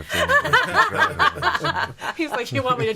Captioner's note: laughing